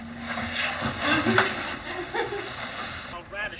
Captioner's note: giggles